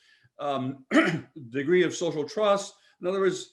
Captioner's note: clears throat